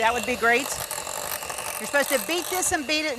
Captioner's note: blender machine roaring